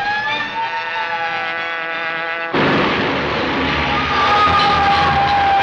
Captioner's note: hornet buzzing